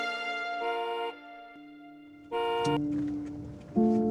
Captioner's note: horn honking